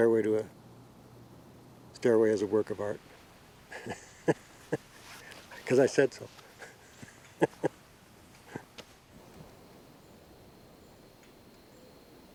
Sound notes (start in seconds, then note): 3.6 chuckles